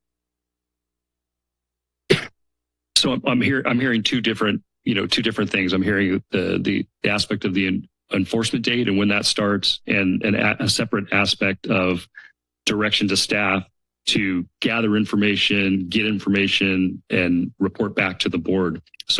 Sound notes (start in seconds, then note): 0.2 silence; 2.0 coughs